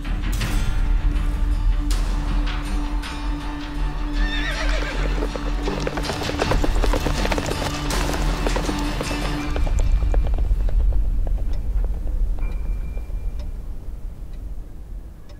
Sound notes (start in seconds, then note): 0.3 dramatic music playing; 4.1 horse neighs; 5.9 horses trotting away